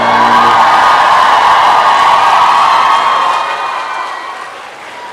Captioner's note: applause and cheering